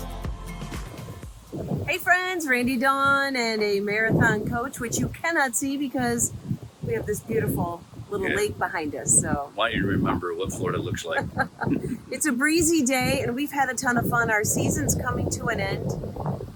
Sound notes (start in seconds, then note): 10.9 laughing